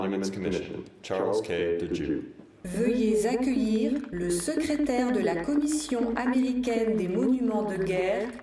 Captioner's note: speaking french